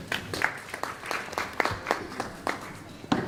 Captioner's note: applause